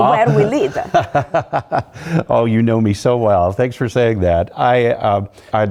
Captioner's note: laugh